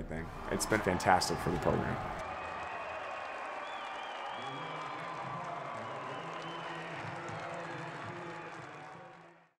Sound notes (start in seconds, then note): 2.0 crowd cheering